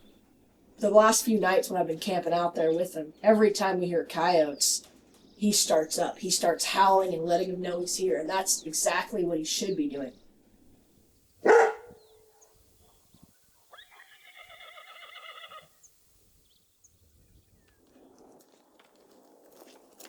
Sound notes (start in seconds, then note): 11.4 dog bark; 13.7 horse whinnying